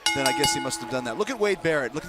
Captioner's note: bell ringing